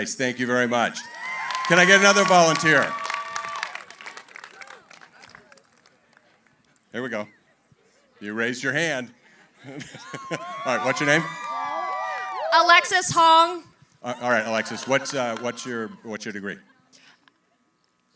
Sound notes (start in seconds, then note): 1.0 applause; 9.5 laughs